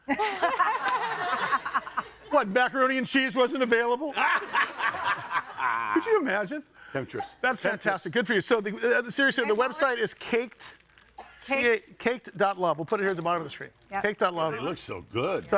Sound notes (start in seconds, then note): 0.1 audience laughing; 4.2 audience laughing